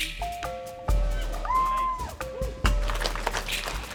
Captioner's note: crowd cheers